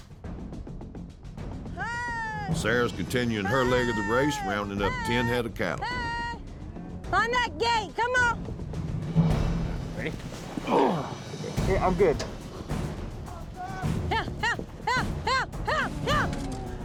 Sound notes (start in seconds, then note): 10.5 grunting